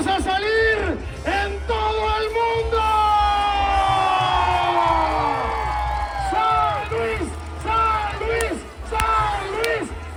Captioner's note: cheering